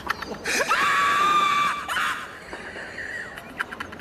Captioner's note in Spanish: risas histéricas